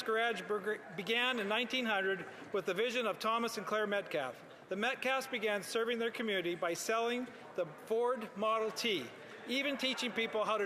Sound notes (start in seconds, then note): none